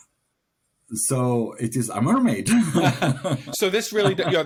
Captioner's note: laughing